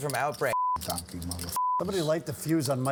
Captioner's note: beep